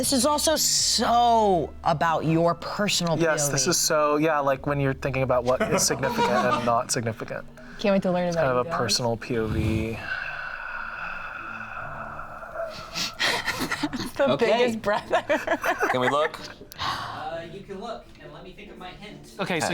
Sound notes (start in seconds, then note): 9.5 sighs; 10.5 laughs